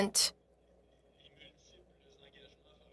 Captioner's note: speaking in French